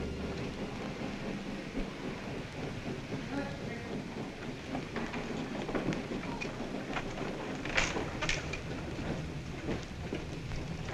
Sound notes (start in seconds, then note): 0.6 train rumbling